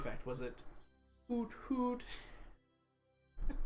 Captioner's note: laughs